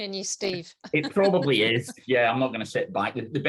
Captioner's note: laughs